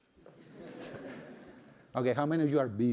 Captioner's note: laughter